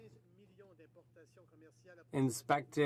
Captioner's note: speaking French